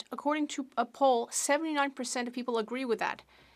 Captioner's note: speaking French